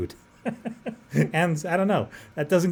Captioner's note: laughs